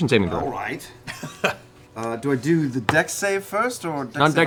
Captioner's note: laughs